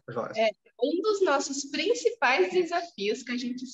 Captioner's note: speaking portuguese